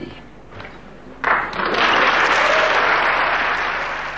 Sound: audience applauding

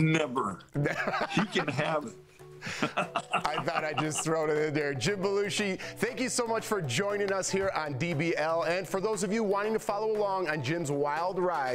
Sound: laughter

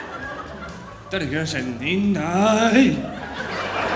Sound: foreign Language

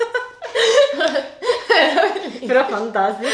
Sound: laughing

